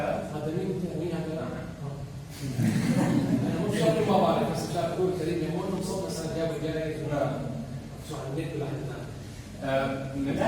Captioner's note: laugh